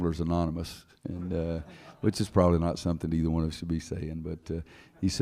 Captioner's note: laughter